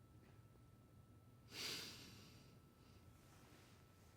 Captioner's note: exhales